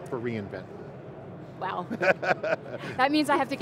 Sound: chuckles

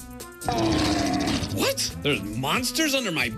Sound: growling

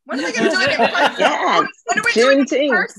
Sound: laughing

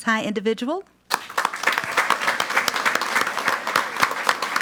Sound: audience applauds

